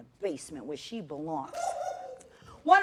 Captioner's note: laughter